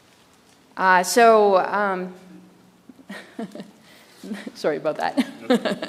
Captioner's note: chuckles